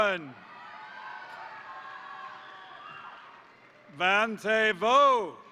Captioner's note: crowd cheering; crowd applauding